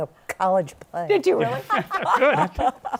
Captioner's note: laughter